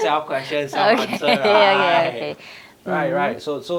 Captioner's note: laughs